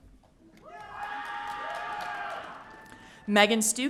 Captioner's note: audience cheering